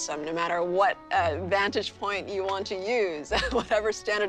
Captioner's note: laughs